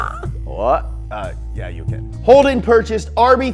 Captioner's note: Australian accent; Japanese accent